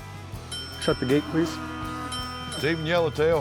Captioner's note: dinging